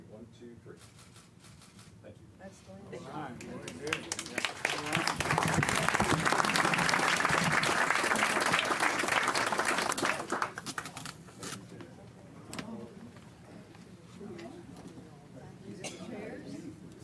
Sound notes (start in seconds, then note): 3.6 clapping